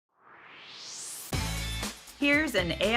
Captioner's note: swoosh